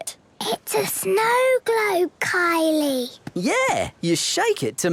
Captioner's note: whispering